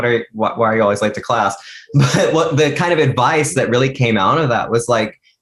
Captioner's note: laughs